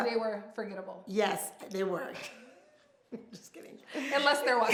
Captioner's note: laughs